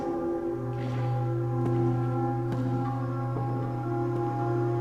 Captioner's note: footsteps echoing